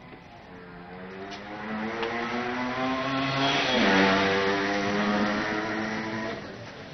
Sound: motor bike sound

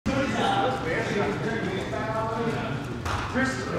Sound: group chattering

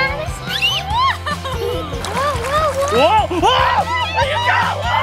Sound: overlapped Excited Shouting

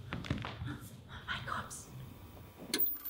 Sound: whispering

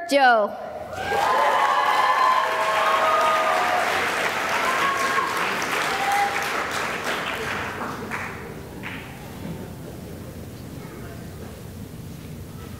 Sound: cheering and applause

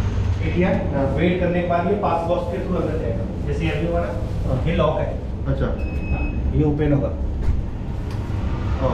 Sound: conversation in Hindi

